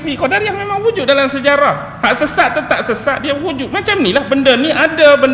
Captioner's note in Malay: ketawa